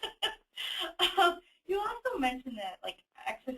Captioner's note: laughs